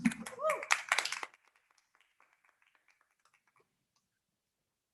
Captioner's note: audience members applauding